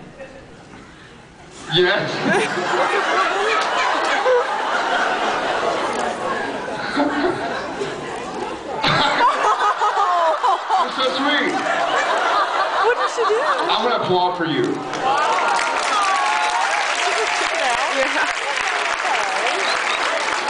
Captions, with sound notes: Yes? [laughs] [laughs] [laughs] [laughs] [laughs] You’re so sweet. [laughs] I’m gonna applaud for you. [applauds]